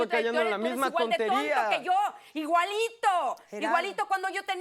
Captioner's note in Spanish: Hablan al unísono